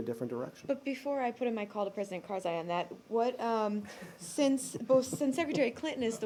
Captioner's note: laughter